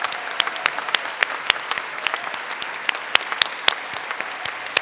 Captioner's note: applause